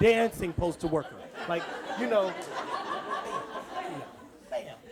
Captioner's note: audience laughs